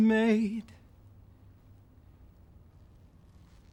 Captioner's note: even more awkward silence